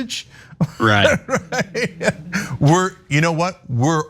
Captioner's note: laugh